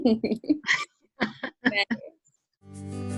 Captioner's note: laughs